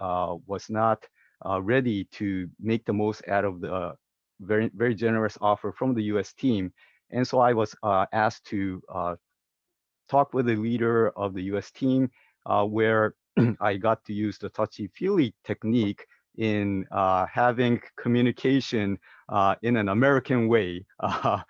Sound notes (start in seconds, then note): 13.4 cough